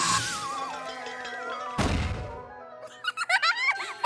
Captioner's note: zap!; rattle!; laughter